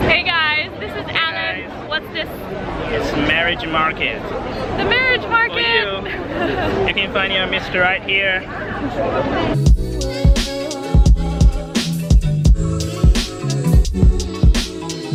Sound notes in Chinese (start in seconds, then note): 6.0 笑声